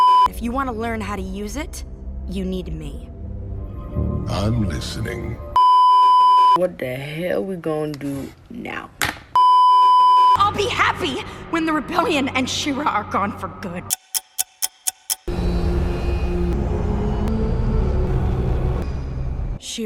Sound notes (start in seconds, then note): 9.4 beeeeeep; 13.9 ticking; 15.1 spaceship sounds and ominous ambient music